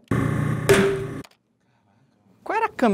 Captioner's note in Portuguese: lata explode